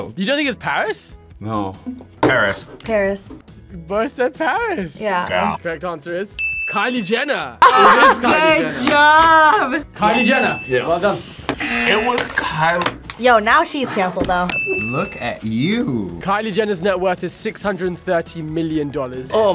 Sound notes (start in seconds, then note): 7.6 both laugh; 11.6 buzzer